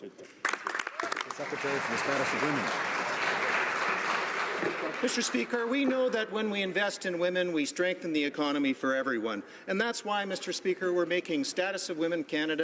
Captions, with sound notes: WHEN WILL THE LIBERALS LOCK IN EQUALITY? [ Some Applause ] >> MR. SPEAKER, WE KNOW THAT WHEN WE INVEST IN WOMEN, WE STRENGTHEN THE ECONOMY FOR